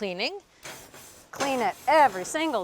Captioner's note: scraper whooshing